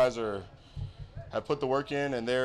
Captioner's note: Noah drumming thumbs